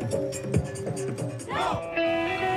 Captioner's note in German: Gruppenschrei